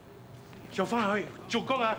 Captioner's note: Fong speaking foreign language